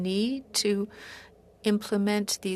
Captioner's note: speaking French